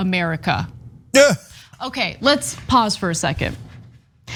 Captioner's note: laugh